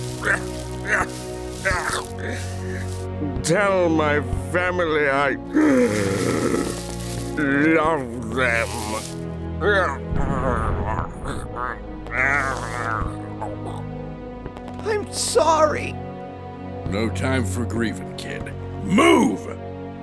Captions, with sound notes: Tell my family I *gasp* Love... them... *dying noises* *more dying noises* I'm sorry... No time for grieving kid, MOVE!